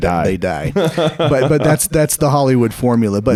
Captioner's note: laughing